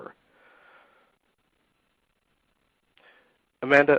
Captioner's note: silence